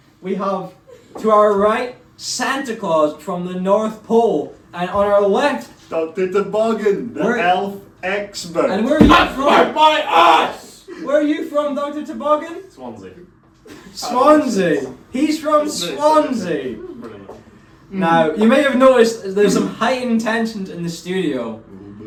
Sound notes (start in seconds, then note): 16.8 chatting away about Swansea